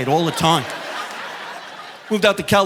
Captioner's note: audience laughing